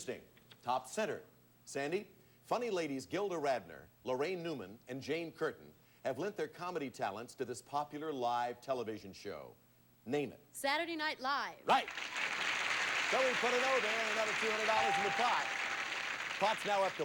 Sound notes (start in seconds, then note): 11.8 audience applauding